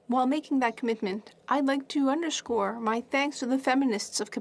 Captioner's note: speaking French